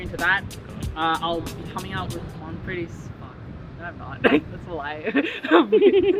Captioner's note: laughs